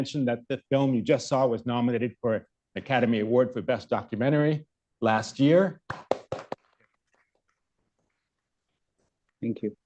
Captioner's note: applause